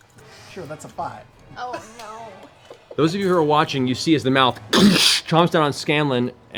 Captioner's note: impact sound